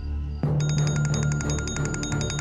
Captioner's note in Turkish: Telefon çalıyor